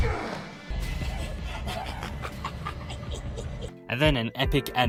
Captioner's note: laugher